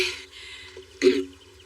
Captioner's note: clears s throat